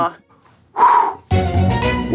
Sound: exhales heavily

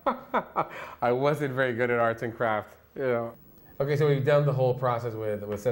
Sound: laughs

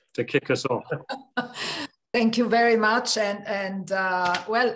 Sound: laugh

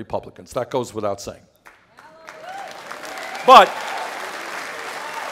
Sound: applause

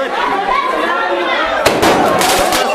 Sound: firework launches; firework explodes; firework launches

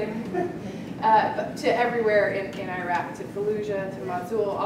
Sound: laugh

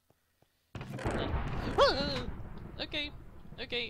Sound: whimpers at loud thunder of first death

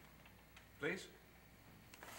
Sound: father's voice, softly

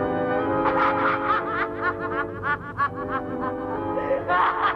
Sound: laughs

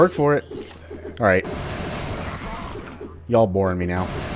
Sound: fwoooosh

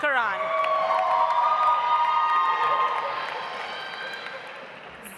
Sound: audience applauds

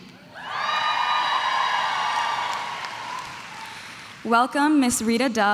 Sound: crowd cheering

